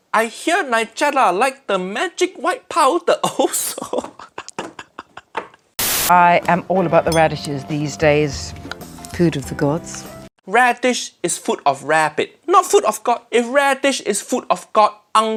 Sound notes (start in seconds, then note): 3.4 laughing; 5.0 knocking on table; 5.8 static crackling